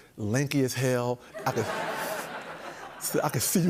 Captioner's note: laughter